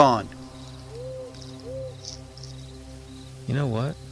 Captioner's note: owl hooting